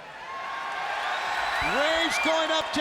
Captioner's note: audience cheers